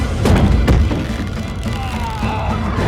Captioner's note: thud; sound of rope stretching; Ryland groans